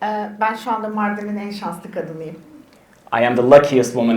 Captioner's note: speaks in Turkish